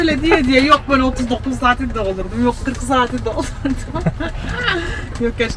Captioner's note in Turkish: kahkaha